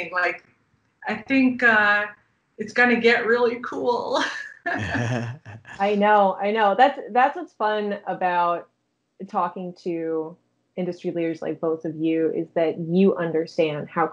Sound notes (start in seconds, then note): 4.7 chuckling